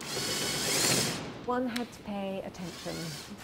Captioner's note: drill whirring